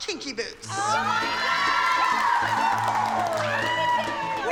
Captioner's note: cheering